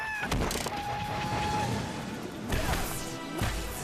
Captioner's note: train whistle blows